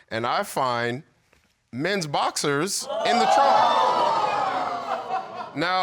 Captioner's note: audience exclaiming